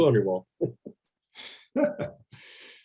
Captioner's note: laughs; Kal laughs